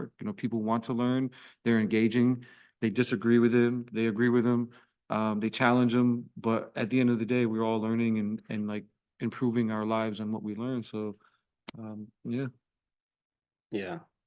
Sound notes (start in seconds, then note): none